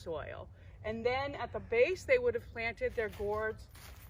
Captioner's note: crunching leaves